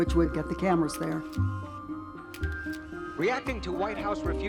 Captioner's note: camera shutter clicking